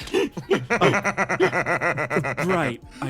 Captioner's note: laugh